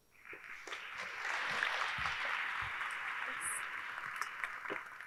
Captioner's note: audience applauding